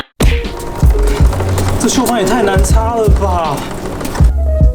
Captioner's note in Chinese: 鍊條滾動聲